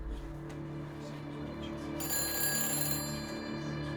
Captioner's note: phone rings